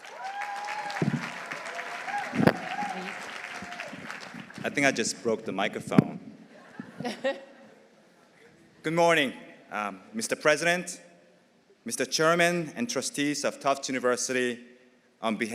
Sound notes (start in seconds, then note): 0.0 audience cheering; 0.0 audience applauding; 6.6 everyone laughing